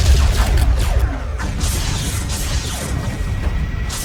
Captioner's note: explosion booms; cannons blasting